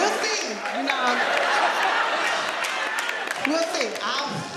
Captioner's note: audience laughing